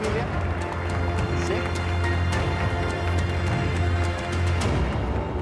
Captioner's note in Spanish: aplausos